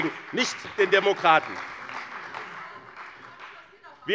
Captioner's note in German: Beifall bei Abgeordneten des BÜNDNISSES 90/DIE GRÜNEN und der CDU